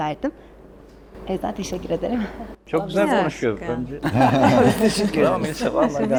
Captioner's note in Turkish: kahkaha